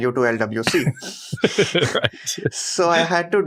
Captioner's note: laughs